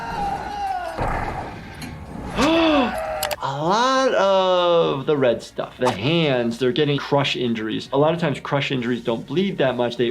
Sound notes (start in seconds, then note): 2.3 gasps